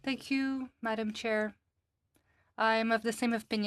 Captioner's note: speaking FRENCH